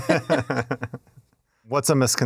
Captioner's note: laughing